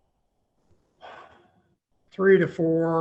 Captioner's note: sighs